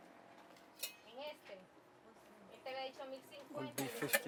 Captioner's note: woman speaking foreign language